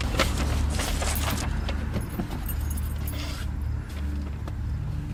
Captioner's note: ominous music; papers rustling